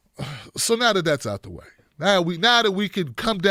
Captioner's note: sighs